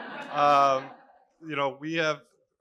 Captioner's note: laughter